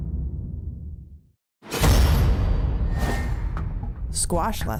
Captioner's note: metallic booming